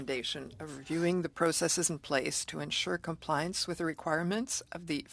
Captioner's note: speaking French